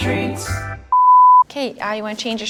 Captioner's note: electronic beep